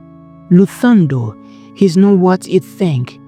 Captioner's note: urgent, Low Voice